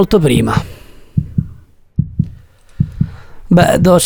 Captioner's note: heartbeat